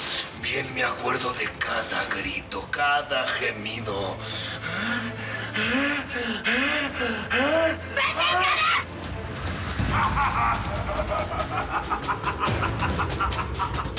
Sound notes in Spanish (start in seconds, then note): 4.6 Gemidos; 10.3 Risotada